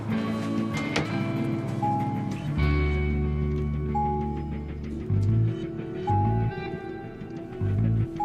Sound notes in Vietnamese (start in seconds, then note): 1.0 chuông báo thang máy